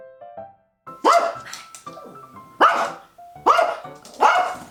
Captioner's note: dog barks